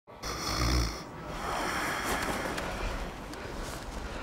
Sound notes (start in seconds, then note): 0.2 snoring loudly